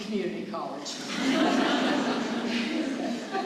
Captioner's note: laughter